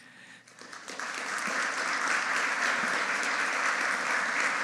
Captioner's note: audience applauding